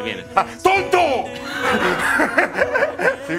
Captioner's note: laughter